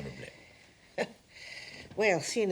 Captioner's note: chuckles